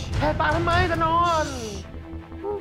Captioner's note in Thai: เสียงบอกให้เงียบ